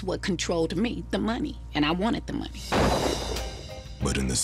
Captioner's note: gunshot